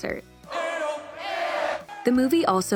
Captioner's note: shouting